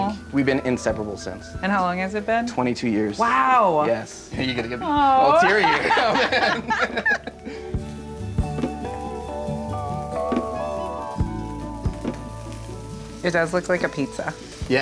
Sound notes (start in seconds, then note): 6.0 laughs; 8.0 bright music